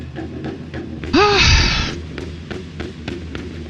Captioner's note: sighs in relief